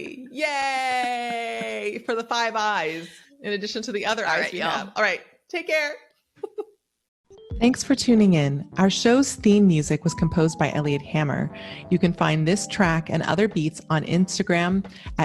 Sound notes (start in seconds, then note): 6.4 chuckles; 7.6 tranquil ambient music